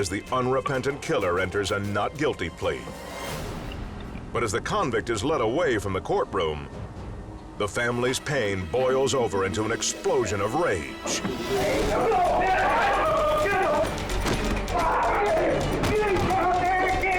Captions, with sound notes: as the unrepentant killer enters a "not guilty" plea. But as the convict is led away from the courtroom, the family's pain boils over into an explosion of rage. (men chanting) - Get the m...! Get him, G...!